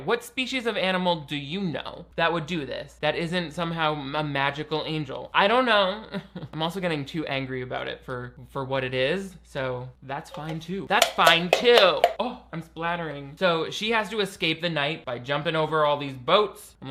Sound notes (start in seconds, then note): 6.0 chuckles; 11.0 can clattering